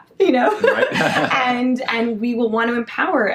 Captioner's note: laughs